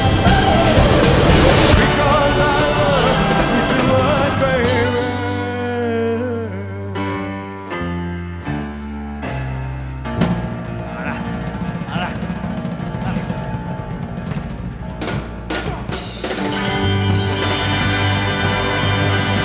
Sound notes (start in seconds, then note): 0.0 air whooshes; 7.0 dramatic piano music; 10.6 grunting; 15.8 bright music